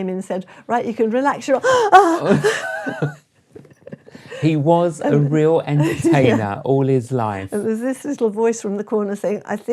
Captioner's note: gasp